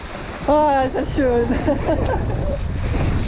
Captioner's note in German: gelächter